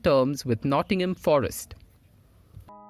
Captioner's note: L'Equipe - in French